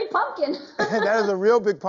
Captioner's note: laughing